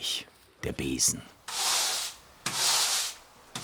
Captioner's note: loud wiping noises